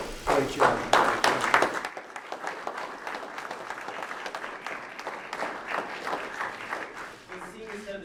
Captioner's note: applause